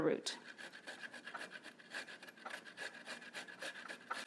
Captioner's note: ginger scrapes